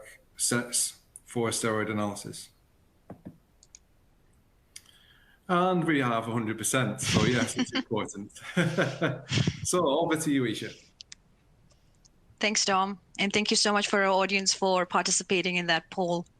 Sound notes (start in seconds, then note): 8.4 laughs